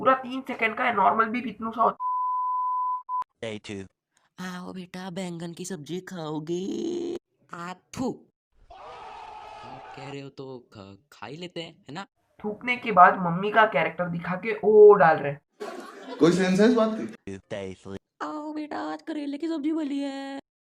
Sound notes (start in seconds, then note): 2.0 the normal beep